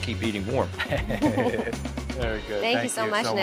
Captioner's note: laughing